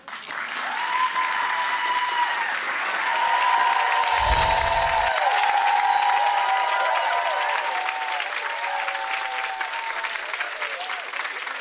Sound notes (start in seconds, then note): 0.3 audience cheers and applause; 4.1 chimes chiming; 7.4 audience cheers and applause